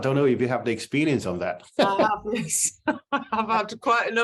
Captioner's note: laughter